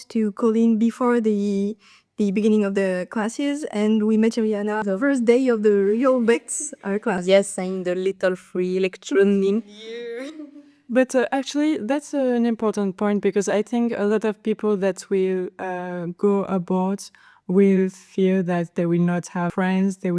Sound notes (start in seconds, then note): 6.0 laughters; 9.6 laughs